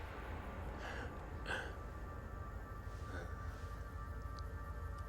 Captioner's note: Gammon chuckles